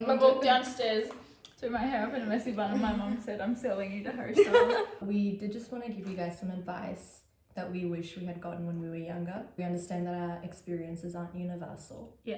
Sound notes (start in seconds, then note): 4.3 laughs